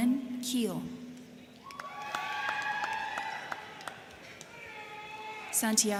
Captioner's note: crowd clapping; crowd cheering